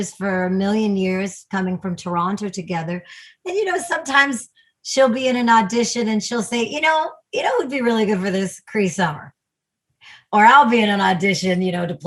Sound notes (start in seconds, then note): none